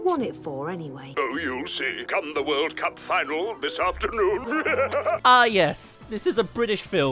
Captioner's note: laughs